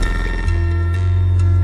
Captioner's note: rubble falling down; rumbling stops